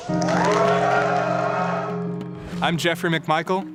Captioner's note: audience applause